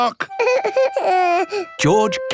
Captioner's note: whimpers